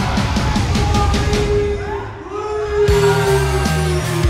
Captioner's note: rock music playing; crowd cheering; announcer on the microphone; rock music playing